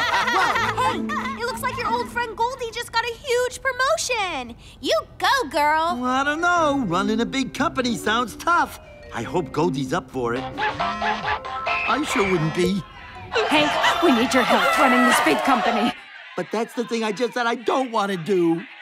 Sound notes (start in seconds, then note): 10.5 phone ringing